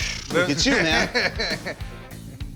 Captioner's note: laughs